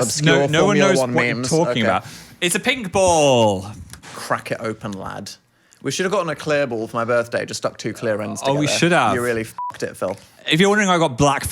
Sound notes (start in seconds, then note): 9.5 beep